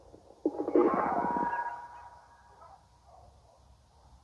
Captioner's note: telephone noise